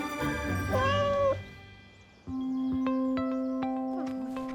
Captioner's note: driver meowing